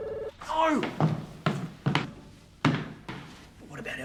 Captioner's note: Gene groans